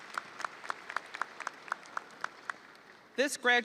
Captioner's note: audience applauding